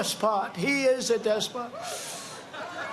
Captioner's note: laughter